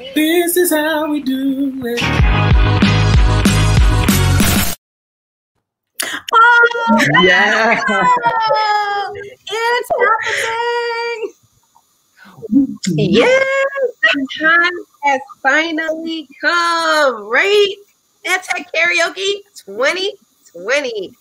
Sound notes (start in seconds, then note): 2.0 upbeat music; 6.8 cheering